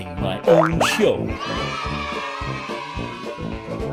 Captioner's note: kids cheering